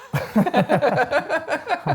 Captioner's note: laughing